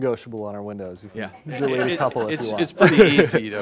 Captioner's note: audience laughing